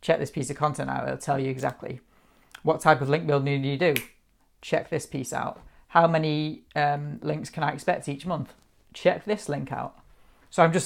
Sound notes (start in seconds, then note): 3.9 snaps fingers